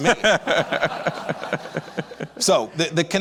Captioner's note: laughs